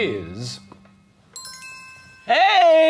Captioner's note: bell dinging